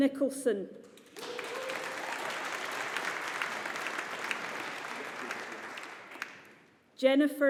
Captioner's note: audience applauding